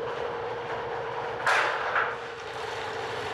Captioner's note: clacking